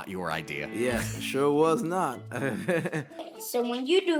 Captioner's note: laughs